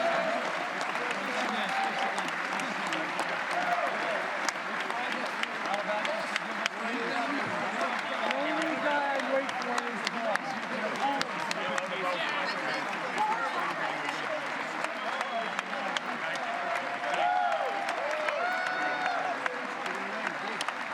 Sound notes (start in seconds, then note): 0.2 cheering; 8.6 applause